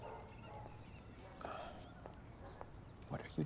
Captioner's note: sighs quietly